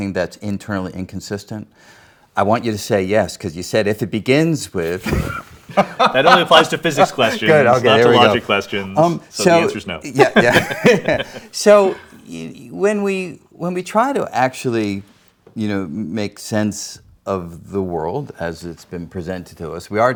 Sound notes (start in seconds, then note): 5.6 laughs; 10.1 both laughing